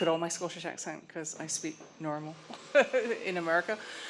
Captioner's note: milder accent; laugh